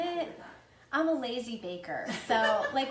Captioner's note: laughing